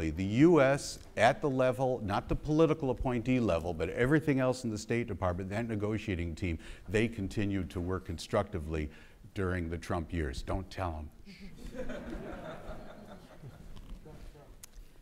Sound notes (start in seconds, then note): 11.4 audience laughing